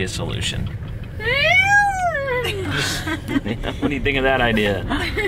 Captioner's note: shouts excitedly